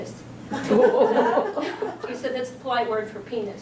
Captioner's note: audience laughs